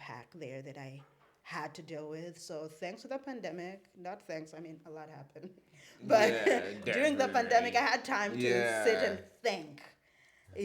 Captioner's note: laughs